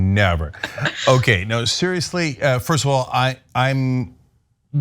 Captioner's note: laugh